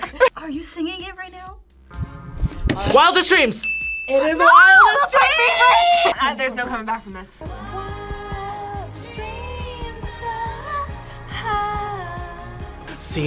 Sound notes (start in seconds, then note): 3.6 bell rings